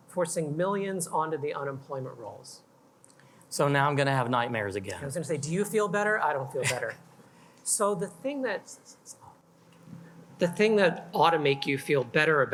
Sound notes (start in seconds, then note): 6.6 chuckles